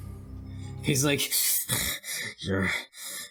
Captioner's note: breathes through his teeth